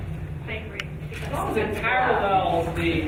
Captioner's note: speaking faintly